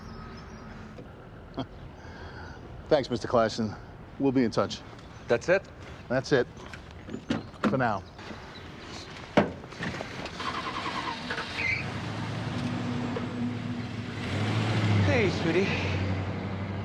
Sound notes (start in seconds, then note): 0.0 birds chirping; 1.5 Forbes laughing; 10.4 car engine revving